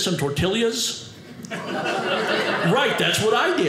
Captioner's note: audience laughing